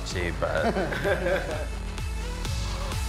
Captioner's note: group laughing; upbeat music continues